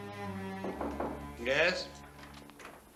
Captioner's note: knock at door